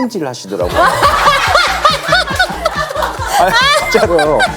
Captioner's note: hahahahahahaha